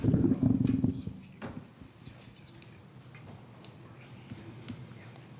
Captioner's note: men whispering